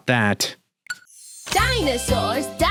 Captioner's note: beeps